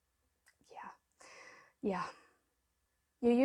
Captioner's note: whispers